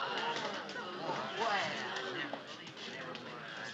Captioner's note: spectators Murmuring